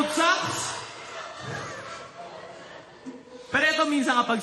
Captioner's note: laughter